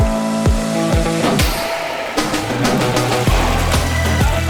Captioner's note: running water; rock music